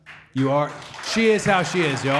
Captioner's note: audience applauding